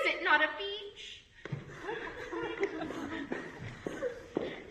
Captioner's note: audience laughs